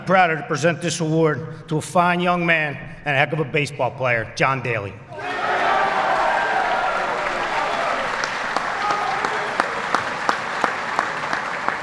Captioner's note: applause